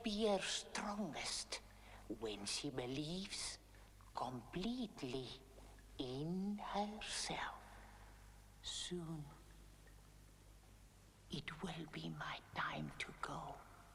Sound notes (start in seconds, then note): none